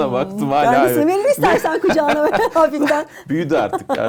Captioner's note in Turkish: kahkaha